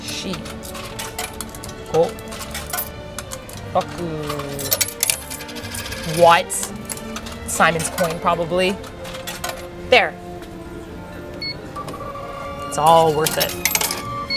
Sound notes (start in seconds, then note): 0.0 counting in japanese; 5.0 coin gets rejected